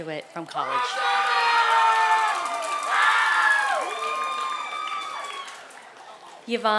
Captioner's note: applause and cheers